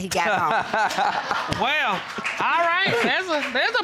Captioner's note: laughs